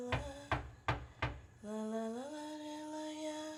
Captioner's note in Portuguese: batida na porta